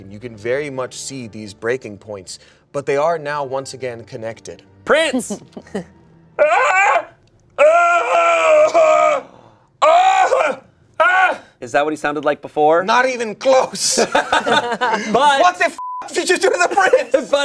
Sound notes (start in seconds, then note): 6.4 yells; 13.8 everyone laughs; 15.8 beep